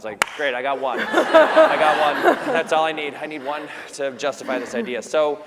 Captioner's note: laughter